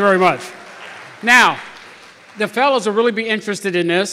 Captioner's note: applause